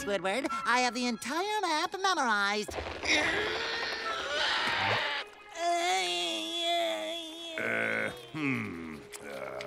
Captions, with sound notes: I have the entire map memorized. [grunting] Uh, hmm, uh...